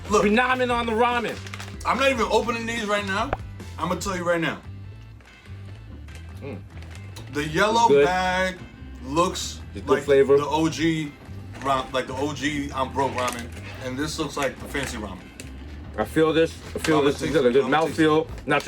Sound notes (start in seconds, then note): 3.0 pops